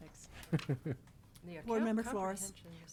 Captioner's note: laughs